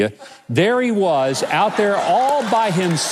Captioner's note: audience laughs